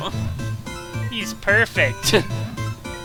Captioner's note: laugh